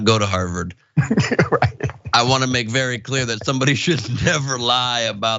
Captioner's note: laugh